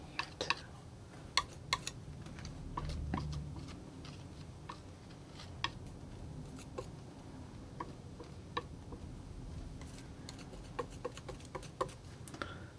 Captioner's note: tapping